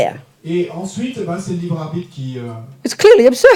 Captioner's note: speaking in French